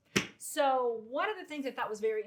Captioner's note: hands clomp on desk